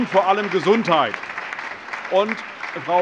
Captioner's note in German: Allgemeiner Beifall